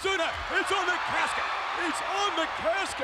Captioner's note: audience cheers